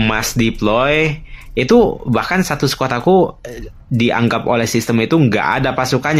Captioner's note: clears throat